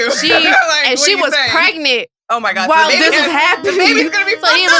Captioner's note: laughs; laughs